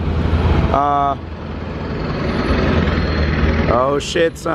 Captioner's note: truck motor grinding